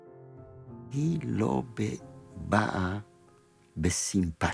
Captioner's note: in Hebrew